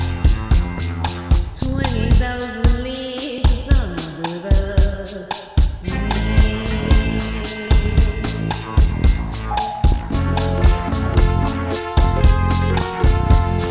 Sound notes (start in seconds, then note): 9.4 sonar ping; 11.0 instrumental music